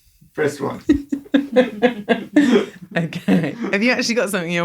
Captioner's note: laughs